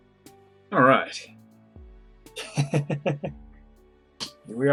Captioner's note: chuckles